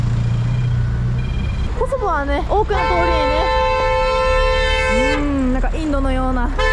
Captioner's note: sound of horns